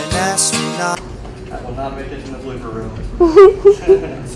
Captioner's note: laughs